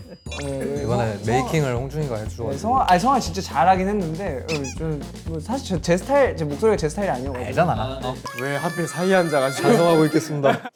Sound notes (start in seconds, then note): 7.7 hmph